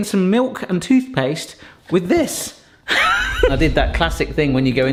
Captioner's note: laughs